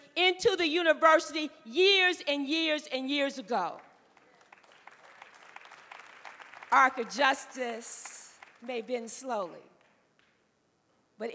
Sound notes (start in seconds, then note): 3.8 applause